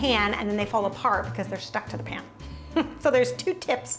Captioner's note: laughs